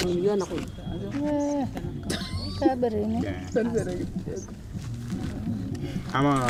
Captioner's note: women speaking indigenous language; footsteps scrunch, as conversation continues; man speaking indigenous language